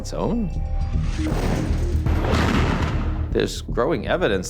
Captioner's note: tense music; explosions booming